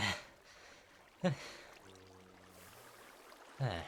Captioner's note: catching breath